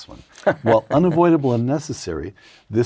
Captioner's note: laugh